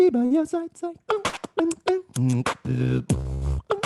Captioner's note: beatboxing